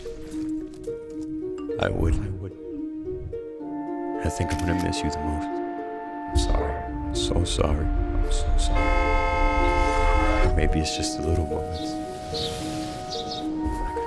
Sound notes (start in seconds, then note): 8.8 car honking